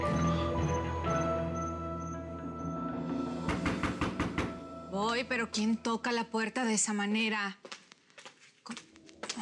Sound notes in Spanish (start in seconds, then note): 3.5 toques en la puerta